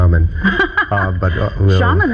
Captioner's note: laughing